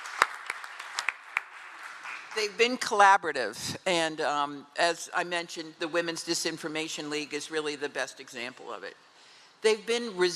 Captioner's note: cheering and applause